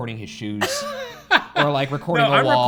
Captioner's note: laughing